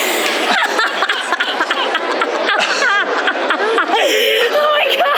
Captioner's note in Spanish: Risas